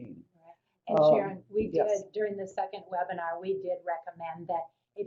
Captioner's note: voiceover